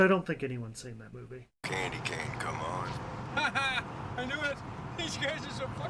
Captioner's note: laughs